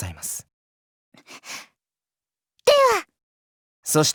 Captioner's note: gasp